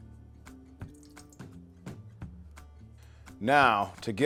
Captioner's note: country music continues; liquid trickles